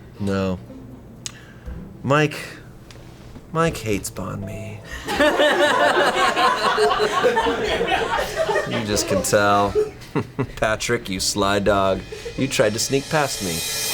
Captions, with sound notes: No, Mike hates bahn mi. (colleagues laughing), You just can tell, Patrick, you sly dog, you tried to sneak past me.